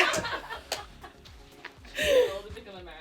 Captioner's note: everyone laughs